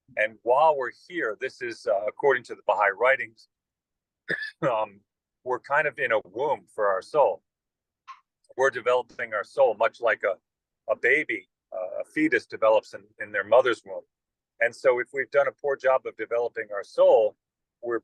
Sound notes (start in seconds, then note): 4.2 cough